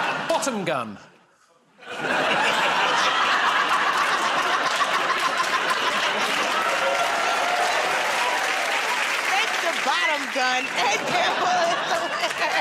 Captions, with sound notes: -"Bottom Gun." [ Laughter ] [ Cheers and applause ] -Thanks to "Bottom Gun," Ed Gamble.